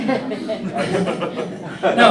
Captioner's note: laughter